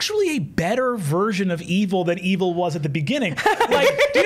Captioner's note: laughter